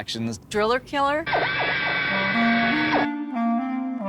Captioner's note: driller whirring; light music